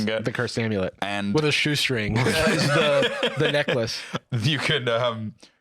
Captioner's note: laughs